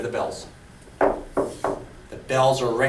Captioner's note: knocks on desk